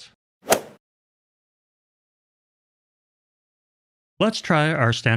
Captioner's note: golf ball hit sound effect